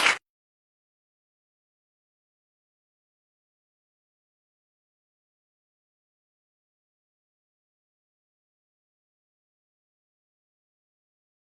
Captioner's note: applause